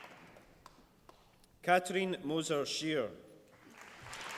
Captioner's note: applause